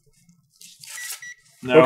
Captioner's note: gentle beeping